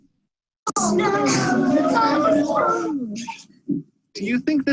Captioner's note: children chattering